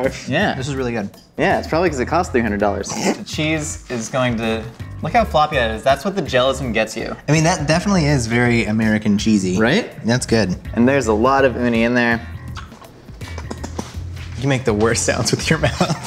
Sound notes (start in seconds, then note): 12.4 smacking lips